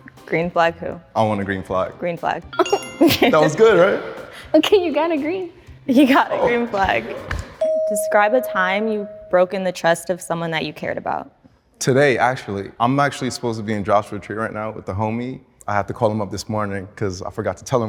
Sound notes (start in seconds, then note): 3.0 laughs